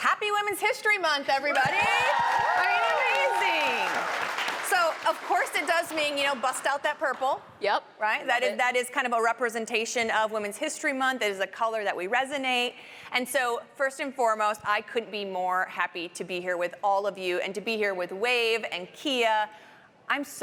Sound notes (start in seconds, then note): 4.5 applause